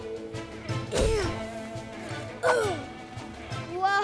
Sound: grunting

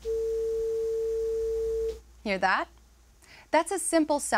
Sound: high-pitched tone

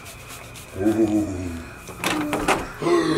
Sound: deep chuckle; gasp

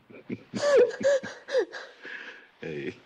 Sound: Barney laughs

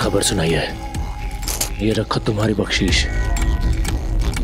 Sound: clinking

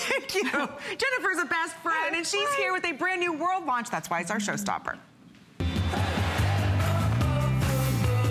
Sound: laughter

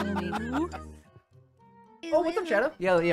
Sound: group laughing

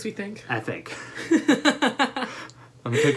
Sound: laughter

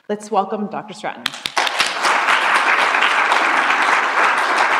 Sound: applause

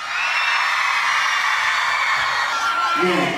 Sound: crowd cheers

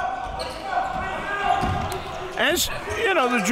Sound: crowd cheering

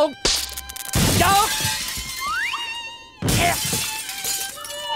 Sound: shattering

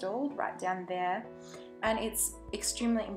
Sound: sharp inhale

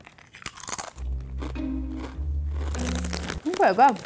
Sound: crunches chip

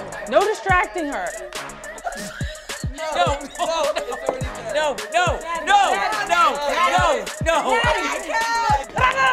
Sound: laugh

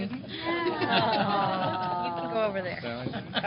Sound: groans

